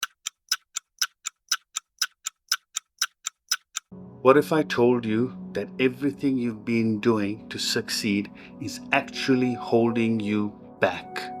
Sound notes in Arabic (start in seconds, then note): 0.0 تدق الساعة